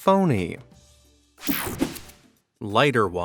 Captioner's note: whooshing sound